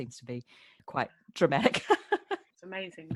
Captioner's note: laughs